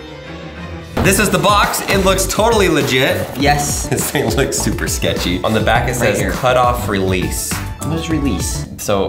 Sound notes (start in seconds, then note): 2.7 laughing